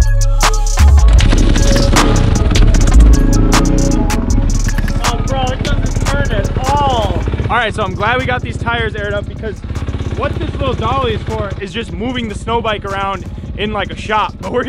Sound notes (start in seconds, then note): 1.4 engine revving